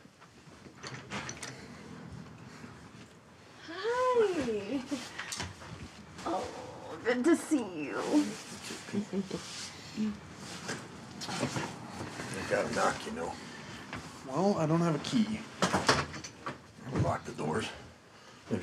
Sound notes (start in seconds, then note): 4.7 chuckles